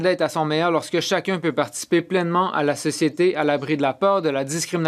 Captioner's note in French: voix de l'interprète